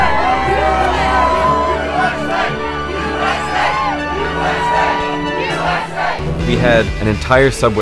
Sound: chanting

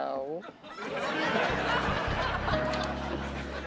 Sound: laughter

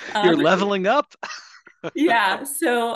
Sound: laughs

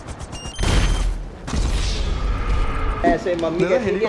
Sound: alarm beeping; buzzer blaring; helicopter exploding; speaking foreign language

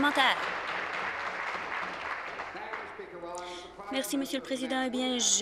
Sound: applause

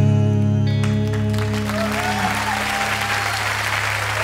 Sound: audience applauding

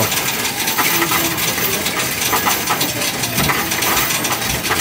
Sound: coins rattling

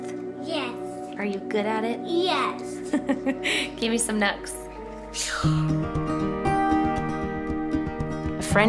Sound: laughing

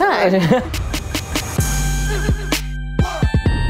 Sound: chuckles

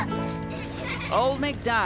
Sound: children laugh

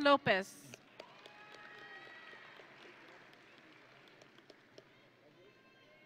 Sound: audience and graduates cheering

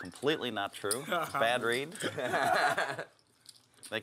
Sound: laugh

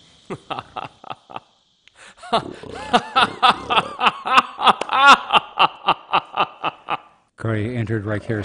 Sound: Craya laughs hysterically

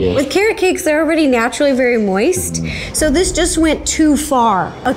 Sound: none

